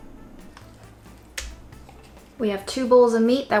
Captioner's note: lid taps; meat slaps